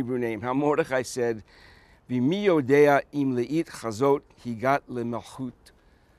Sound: Speaking Hebrew

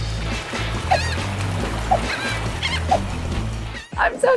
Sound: beach music; seagulls squawking

